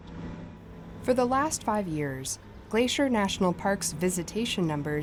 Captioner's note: voice-over